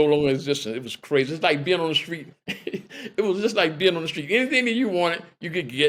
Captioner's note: laughter